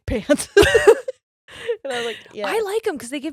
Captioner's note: both laughing